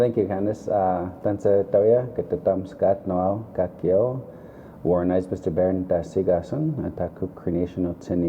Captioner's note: speaking in the Cree language